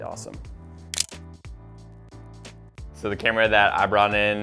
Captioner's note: camera shutter clicks